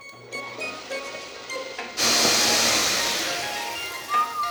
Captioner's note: blender whirs